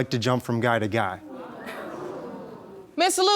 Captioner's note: audience exclaiming